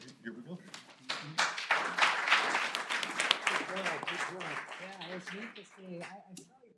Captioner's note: applause